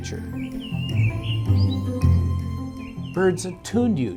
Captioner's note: birds chirping